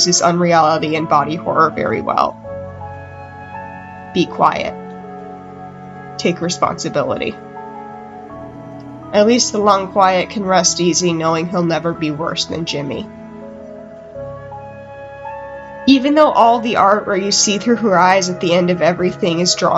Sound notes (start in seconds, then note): none